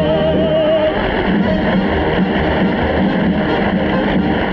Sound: audience applauding

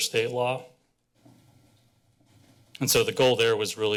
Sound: pause

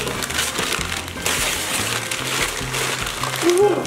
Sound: paper ripping

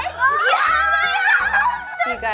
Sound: shouting

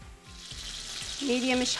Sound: butter sizzles

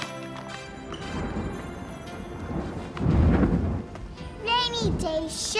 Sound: thunder

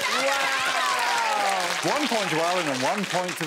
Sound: all applauding

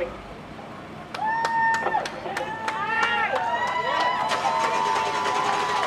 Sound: crowd cheers and applauds

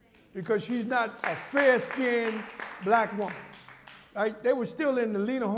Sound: applause

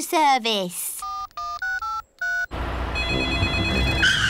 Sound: dialing; phone rings

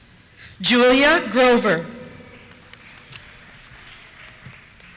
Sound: applause

